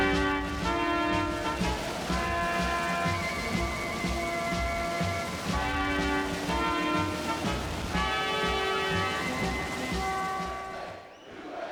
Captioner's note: crowd cheering